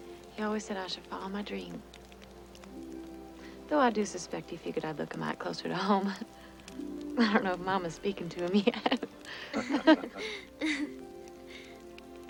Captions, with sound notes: He always said I should follow my dream. Though I do suspect he figured I'd look a mite closer to home. (chuckles) I don't know if Mama's speaking to him yet. (all laugh)